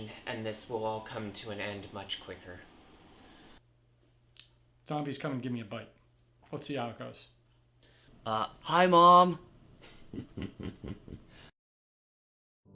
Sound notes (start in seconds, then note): 9.8 chuckling